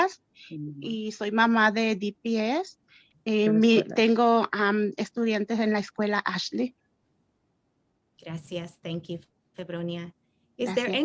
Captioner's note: speaking Spanish